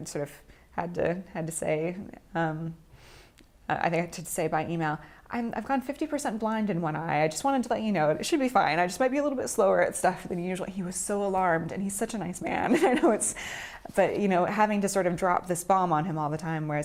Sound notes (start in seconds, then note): 12.6 laughing